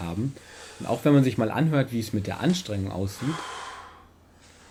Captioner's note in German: Starkes Atmen vom linken Bild